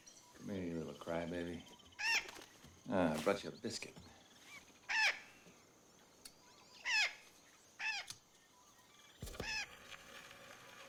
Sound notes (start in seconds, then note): 0.0 bird squawks; 4.4 bird squawks